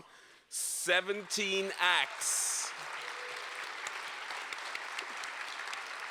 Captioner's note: applause